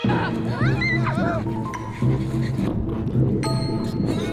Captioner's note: people screaming